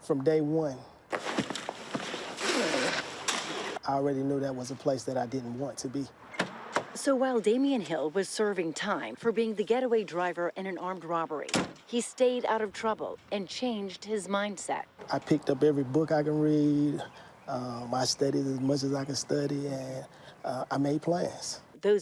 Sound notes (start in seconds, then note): 1.0 boots shuffle; 1.9 zipper zips